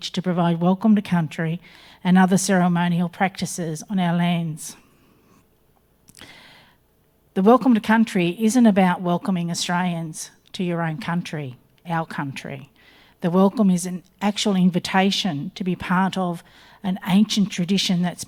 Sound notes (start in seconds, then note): none